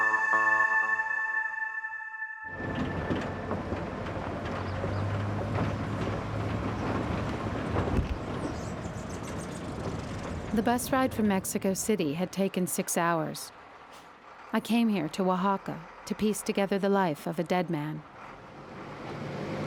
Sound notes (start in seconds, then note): 3.6 bus rattling